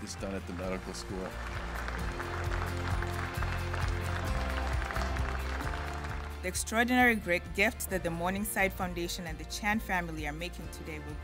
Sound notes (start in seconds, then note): 3.7 applause